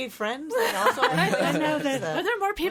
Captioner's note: all laughing